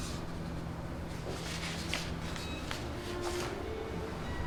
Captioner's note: photos rustling